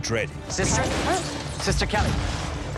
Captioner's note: explosions